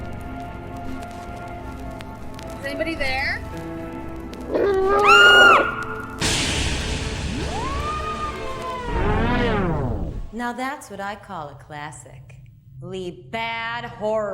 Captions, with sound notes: Is anybody there? (Loud, cheesy monster growl) (Cheesy girl scream) Now that's what I call I call a classic-ly bad horror film.